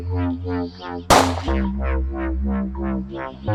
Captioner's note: gunshot